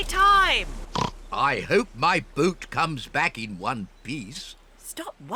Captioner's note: oinks